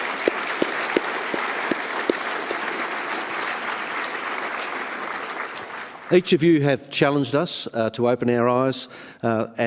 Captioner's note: applause